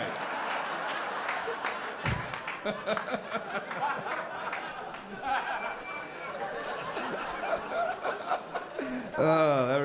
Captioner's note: laughter